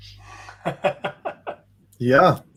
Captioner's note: laughs